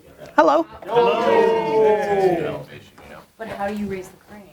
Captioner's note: crowd greets Gary